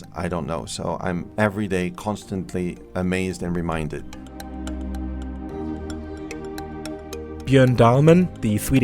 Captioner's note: voiceover